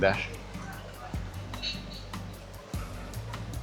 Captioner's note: people chattering